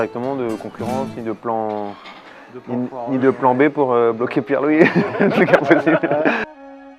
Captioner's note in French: Laughs